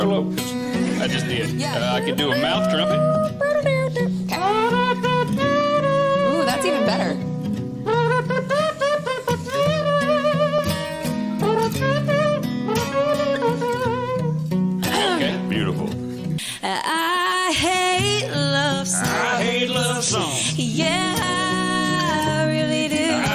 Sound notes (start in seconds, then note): 4.3 kazoo noises; 4.4 mouth trumpet